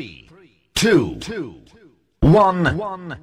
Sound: echo

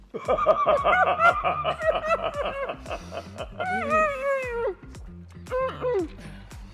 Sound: laughing; groaning

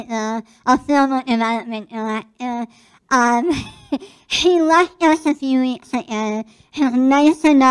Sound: laugh

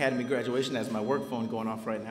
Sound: phone ringing

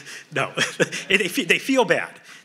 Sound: laughs

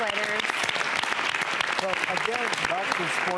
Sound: applause

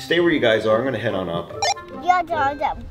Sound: beeps

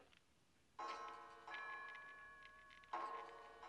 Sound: clock chiming

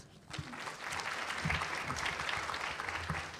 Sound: applause

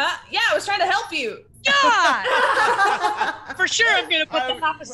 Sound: laugh

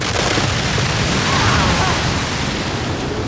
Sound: splashing

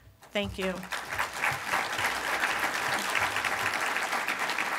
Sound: applause from the audience

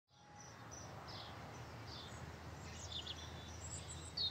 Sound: birds chirping

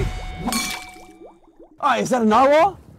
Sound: glasses clanging

